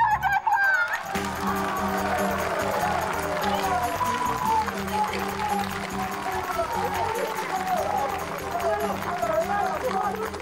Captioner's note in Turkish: Alkış sesi